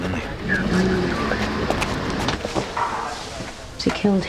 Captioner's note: traffic rumbling